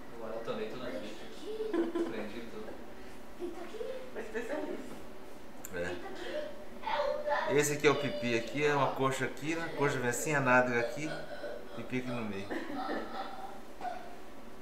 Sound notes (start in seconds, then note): 1.5 laughter